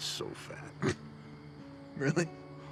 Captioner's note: laughs